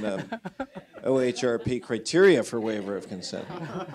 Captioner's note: laughter